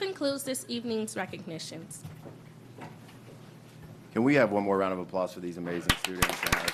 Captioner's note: applause